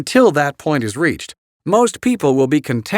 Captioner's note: voiceover